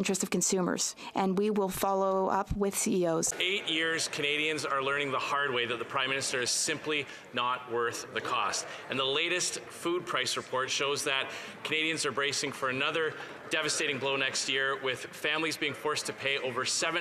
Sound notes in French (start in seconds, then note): 8.3 voix de l'interprète